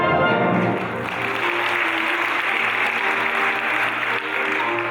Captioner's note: audience applauding; classical music